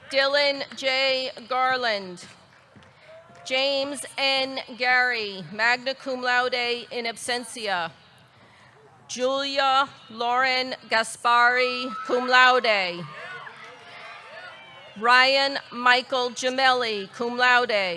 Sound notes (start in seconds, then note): 11.8 audience cheering